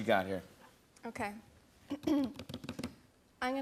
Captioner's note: clears throat